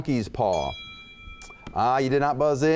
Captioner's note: bell chimes